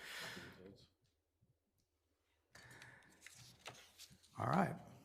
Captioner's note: attendees faintly speaking